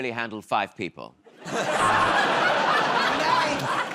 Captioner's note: laughter